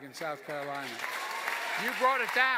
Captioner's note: cheers and applause